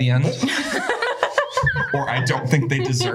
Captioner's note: laughter